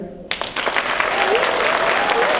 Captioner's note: applause